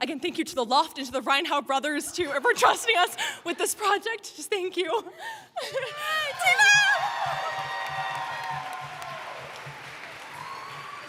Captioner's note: applause